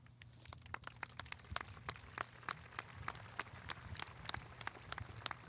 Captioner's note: audience applauding